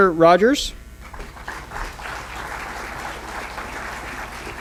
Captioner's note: applause